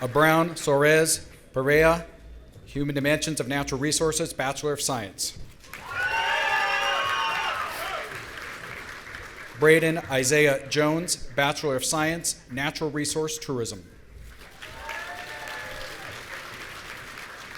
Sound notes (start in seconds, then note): 5.7 audience cheering; 14.2 audience applauding